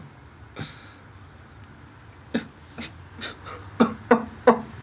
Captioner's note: laughs; starts to cry